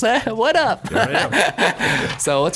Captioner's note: he laughs